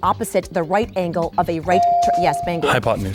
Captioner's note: bell dings